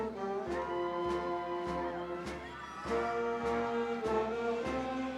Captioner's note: audience members whooping